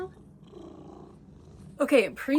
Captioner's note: purrs loudly